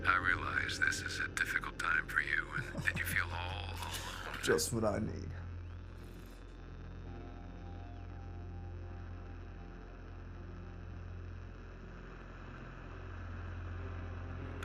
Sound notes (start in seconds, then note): 2.4 Kenny laughs; 5.5 ominous music; 5.5 static buzzing